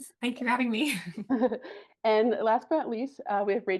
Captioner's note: chuckles